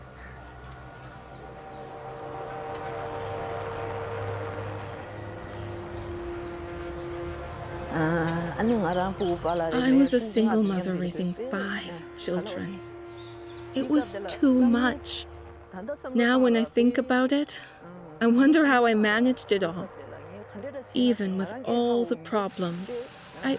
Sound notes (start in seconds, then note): 0.2 somber emotive music; 8.3 speaks foreign language